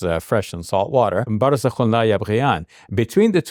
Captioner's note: speaks in Arabic